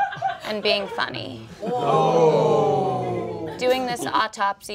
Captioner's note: all laughing; all groaning